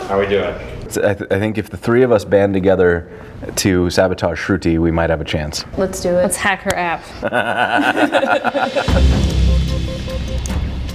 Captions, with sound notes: I think if the three of us band together to sabotage Shruti we might have a chance. Let's do it. Let's hack her app. (laughing)